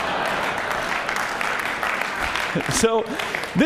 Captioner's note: laughter; applause